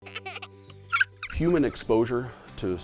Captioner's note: babies laughing